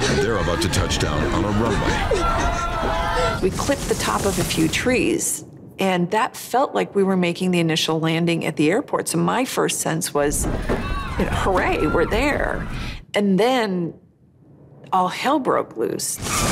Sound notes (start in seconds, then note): 2.0 passengers screaming; 10.6 passengers screaming